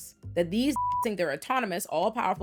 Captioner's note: beep